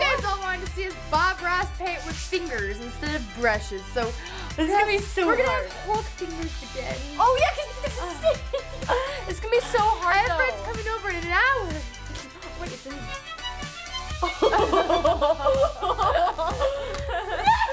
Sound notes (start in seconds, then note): 7.7 laughing; 14.2 both laughing